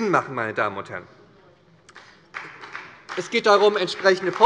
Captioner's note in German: Beifall bei der SPD